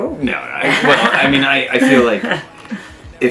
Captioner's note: loud laughter drones out